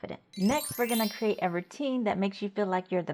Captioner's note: bells chiming